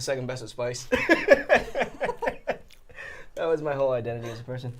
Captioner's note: both laughing